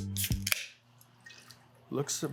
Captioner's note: ring pull clicks; liquid pours